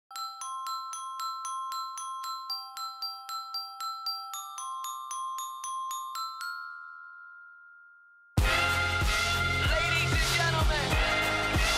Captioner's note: crowd cheering